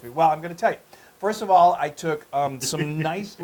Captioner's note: laugh